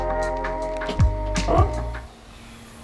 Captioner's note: boot squeaking